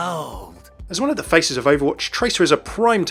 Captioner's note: voiceover